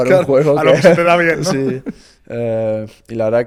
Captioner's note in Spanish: risas